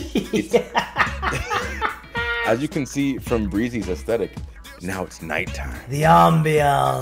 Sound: laugh

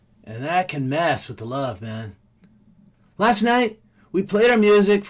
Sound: none

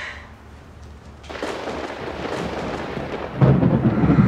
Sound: thunder; evil whisper; scared breathing

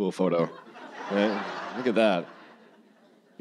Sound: audience laughing

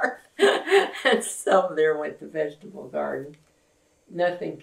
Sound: laughs

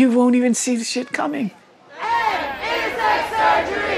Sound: chanting

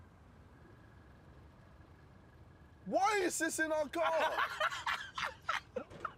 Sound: laughs

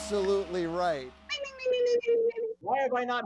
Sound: mimicking bell

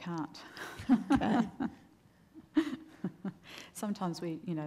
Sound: laughs

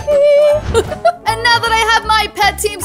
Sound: laughs

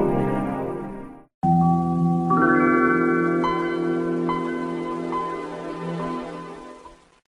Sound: Windows 95 Startup Sound

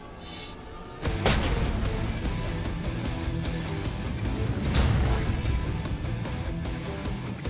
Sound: rock music; blade impacts

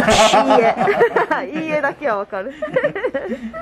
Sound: laughs

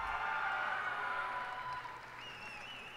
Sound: cheers and applause

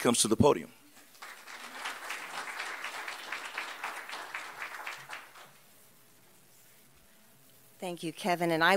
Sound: applause

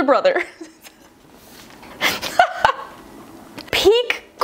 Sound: laughs

